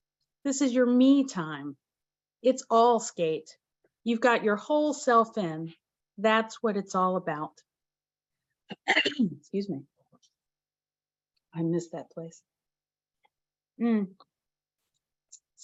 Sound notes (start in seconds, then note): 8.7 coughs